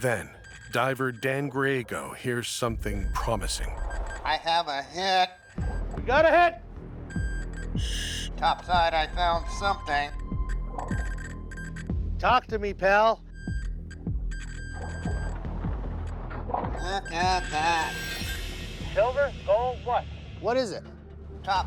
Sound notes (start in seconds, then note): 7.0 beeping continues